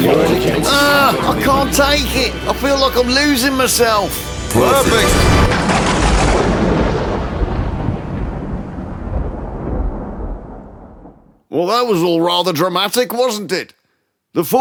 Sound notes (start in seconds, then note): 6.1 thunder clap